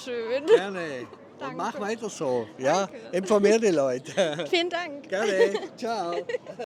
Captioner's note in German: gelächter